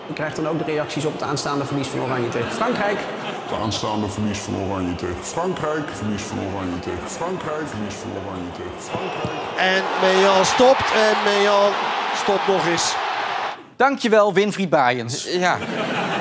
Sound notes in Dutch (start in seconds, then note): 4.4 de zin galmt na